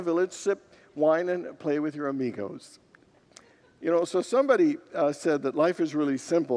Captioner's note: congregants laugh